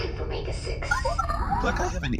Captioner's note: incoming transmission